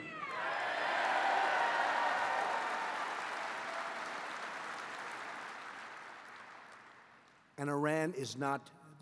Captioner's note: applause